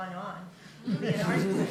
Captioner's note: laughter